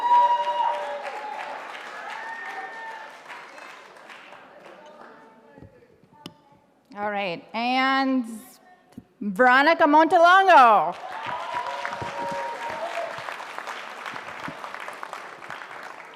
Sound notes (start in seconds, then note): 10.9 audience applauding